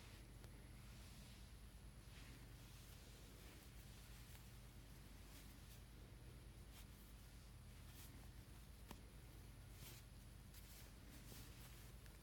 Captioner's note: soft sounds of fabric making muted popping noises